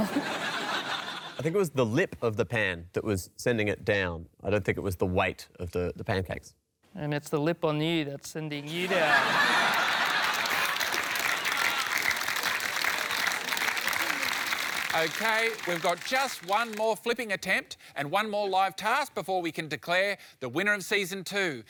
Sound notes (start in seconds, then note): 0.0 laughter; 8.6 laughter, applause